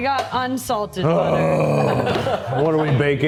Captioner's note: groans